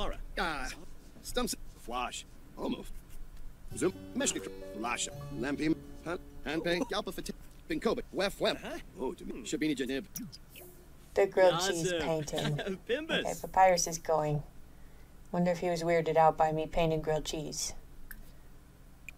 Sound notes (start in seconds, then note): 0.5 Simlish